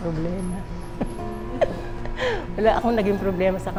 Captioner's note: laughs